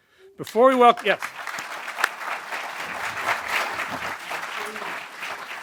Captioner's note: applause